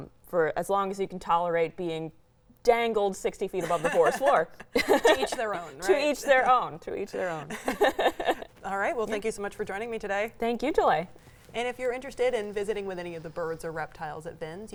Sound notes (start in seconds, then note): 3.6 laughs; 7.4 laughing